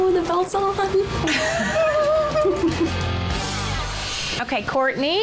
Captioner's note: laughing